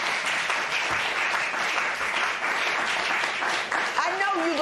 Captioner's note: applause